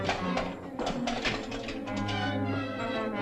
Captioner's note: lock rattling